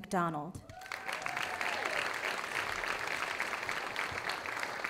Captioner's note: audience applauding